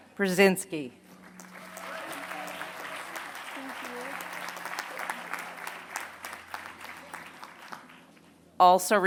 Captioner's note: applause